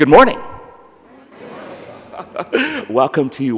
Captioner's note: laughs